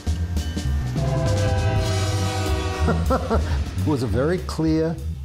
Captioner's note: train horn blaring